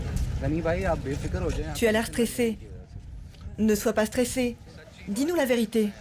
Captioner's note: people speaking foreign language